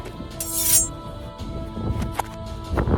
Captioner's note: Steve and Herobrine's sword clank onto each other